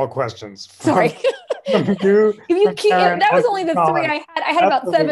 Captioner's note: laughter